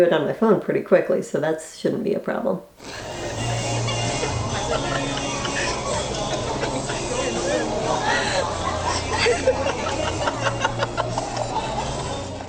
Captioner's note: laughter